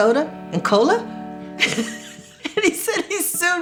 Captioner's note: laughs